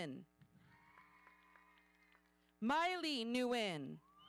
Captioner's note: audience cheering